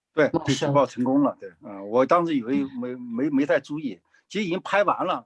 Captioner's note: speaking in foreign language